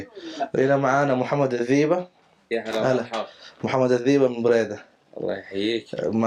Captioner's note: Arabic